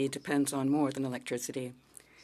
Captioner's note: speaking French